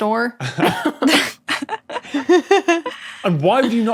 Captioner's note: group blurts chuckle